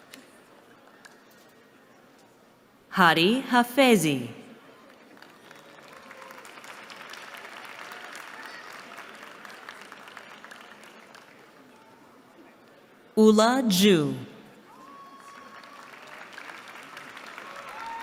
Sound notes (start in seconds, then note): 4.6 applause; 14.7 applause